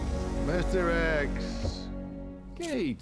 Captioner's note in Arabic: اللهجة الاسكتلندية